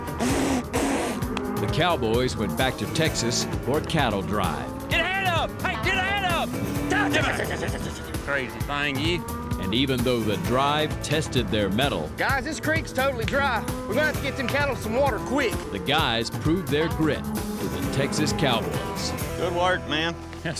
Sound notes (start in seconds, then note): 0.0 blowing; 8.1 shouting